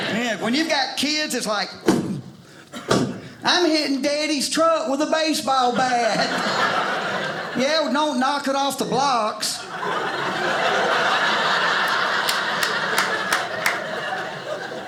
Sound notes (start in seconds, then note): 9.6 audience laughing